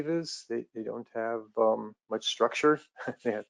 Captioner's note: chuckles